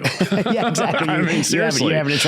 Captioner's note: laughs